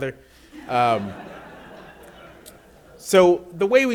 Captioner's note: audience laughs